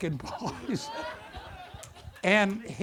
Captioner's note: audience laughter